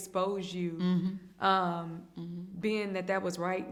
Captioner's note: hums in agreement